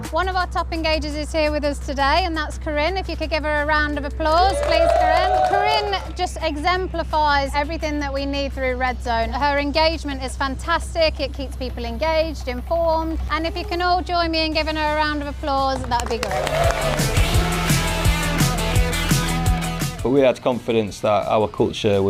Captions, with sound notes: One of our top engagers is here with us today, and that's Corinne. If you could give her a round of applause please. [audience cheering] Corinne. Corinne just exemplifies everything that we need through Red Zone. Her engagement is fantastic. It keeps people engaged, informed. And if you can all join me in giving her a round of applause, that would be great. [audience cheering] [upbeat music] Well, we had confidence that our culture